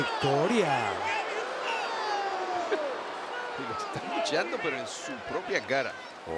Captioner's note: applause